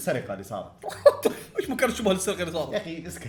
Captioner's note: chuckles